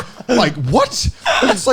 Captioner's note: laughing